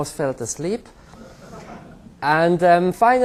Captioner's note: laughter